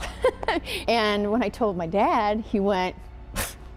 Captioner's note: laughing; scoffing